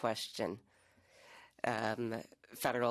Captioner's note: speaking French